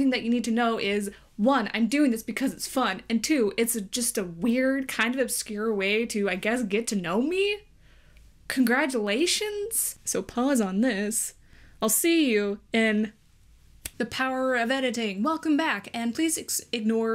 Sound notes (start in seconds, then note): 13.8 snaps fingers